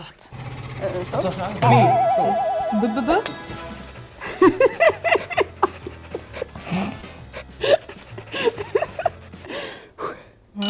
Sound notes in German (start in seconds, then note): 1.4 Leises Flüstern; 3.2 Klirren; 3.5 Lachen; 7.4 Lockere Musik